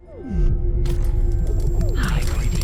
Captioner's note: glass cracking